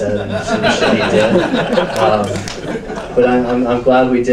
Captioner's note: audience laughs